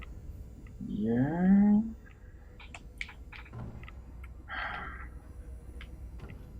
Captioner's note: sighs